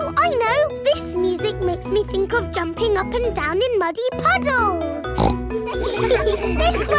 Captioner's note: snorts; giggles